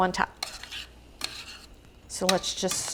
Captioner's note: tongs scraping